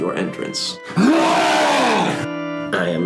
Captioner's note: long wookie roar